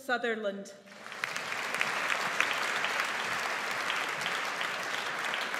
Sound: audience applauds

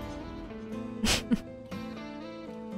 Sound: chuckles

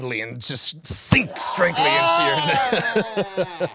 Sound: laughing

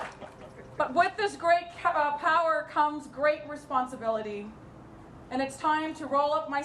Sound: applause

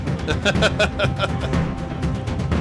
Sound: laughing

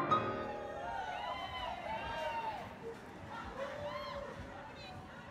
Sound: bright, whimsical piano music; audience cheering

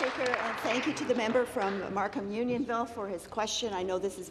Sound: applause

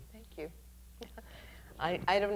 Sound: chuckles

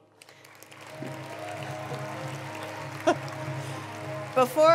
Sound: attendees applauding

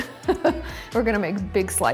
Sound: laughs

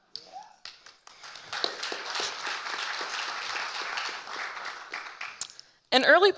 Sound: audience applauding

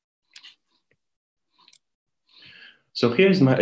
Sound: mouse clicking

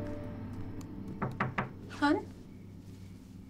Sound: knock at door

